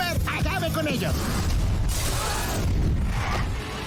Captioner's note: speaking in Spanish; swooshing; thunder crashing